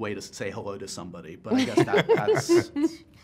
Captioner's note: laughter